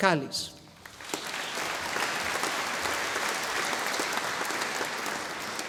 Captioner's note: audience applauding